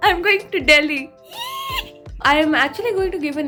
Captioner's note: excited squeal